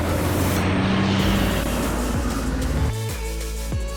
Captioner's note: truck engine roaring; chill music